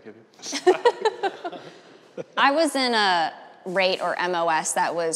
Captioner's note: laughing